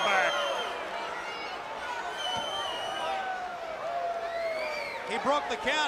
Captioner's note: crowd chatter